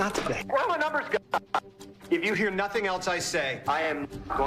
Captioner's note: glitching audio